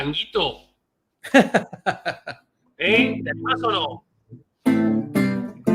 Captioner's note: laughs